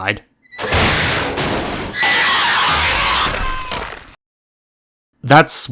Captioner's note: locker break, clanging, eardrum shattering noises